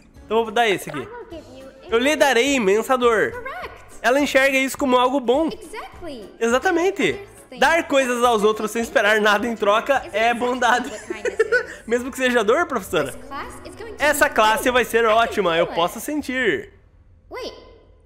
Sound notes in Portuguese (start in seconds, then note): 10.4 risos